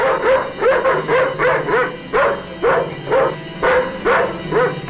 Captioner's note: dog barking